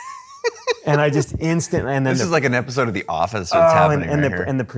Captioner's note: laughs